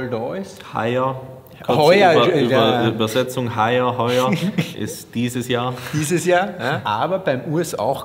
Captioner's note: austrian slang